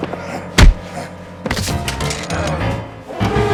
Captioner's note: smacking; thudding; dramatic music